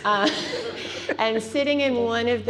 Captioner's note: laughs